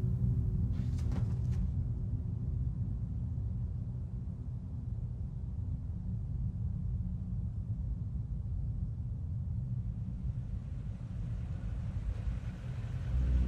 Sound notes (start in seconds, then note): 10.5 vehicle approaching